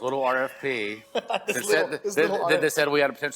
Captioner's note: laughing